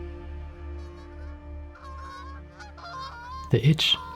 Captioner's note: birds squawking